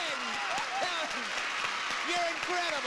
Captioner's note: audience cheering